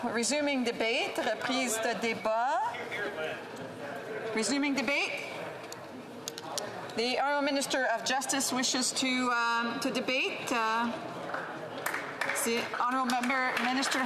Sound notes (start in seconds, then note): 5.1 speaking French